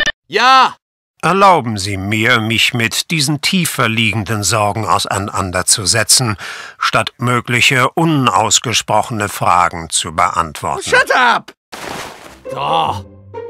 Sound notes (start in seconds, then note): 1.1 German wallace breen talking